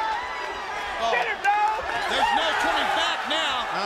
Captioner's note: crowd chatter